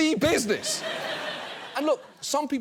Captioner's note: audience laughs